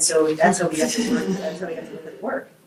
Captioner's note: group laughs